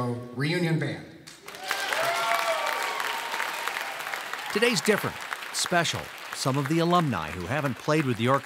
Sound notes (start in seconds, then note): 3.7 applauding